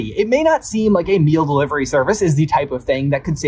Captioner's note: none